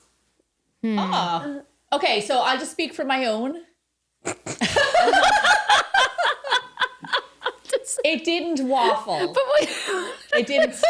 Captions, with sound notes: Oh, okay, so I'll just speak for my own. (laughing) It didn't waffle.